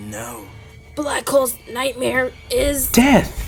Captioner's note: gulp